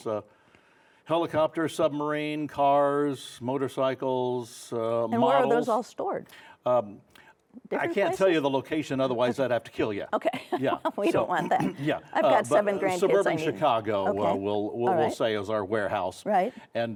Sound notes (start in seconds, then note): 10.9 laughs